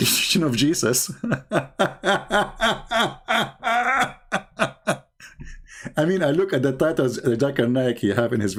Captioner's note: Ketawa